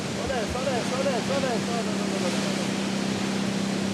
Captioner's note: waves crashing